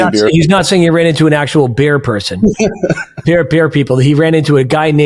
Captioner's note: laughing